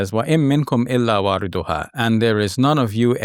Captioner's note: speaking Arabic